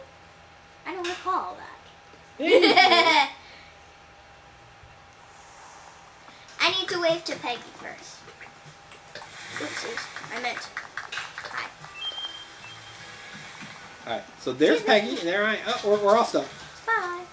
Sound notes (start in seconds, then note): 2.4 assistant laughs; 12.3 bell chiming